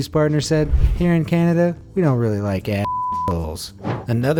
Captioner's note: beep